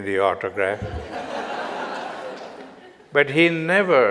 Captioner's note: audience Laughter